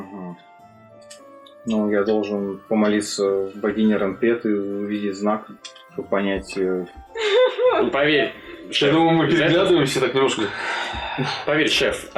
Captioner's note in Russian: Вздох